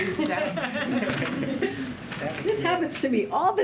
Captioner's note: laughter